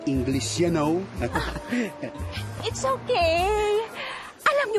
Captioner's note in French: chuckles